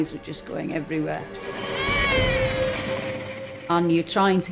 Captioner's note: screams